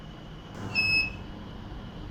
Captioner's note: beeps